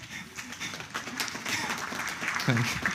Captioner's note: applause